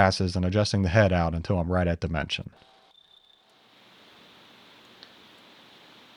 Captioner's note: drill whirring